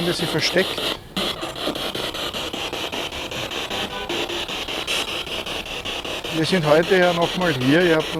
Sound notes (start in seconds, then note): 1.5 noise of the spiritbox in the background